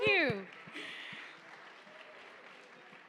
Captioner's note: applause